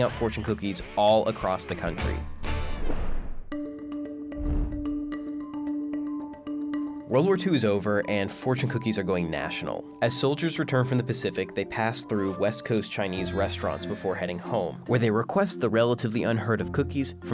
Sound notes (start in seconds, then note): 3.4 bright music; 4.4 swooping